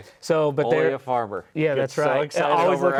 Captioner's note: laughs